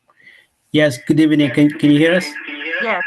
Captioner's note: voice echoing